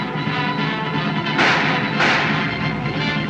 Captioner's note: gunshots